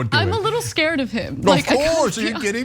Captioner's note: laugh